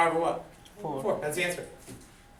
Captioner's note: voiceover